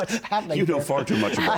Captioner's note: laughter